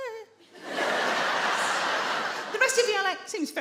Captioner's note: audience laugh